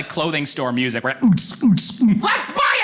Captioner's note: beat boxes dance music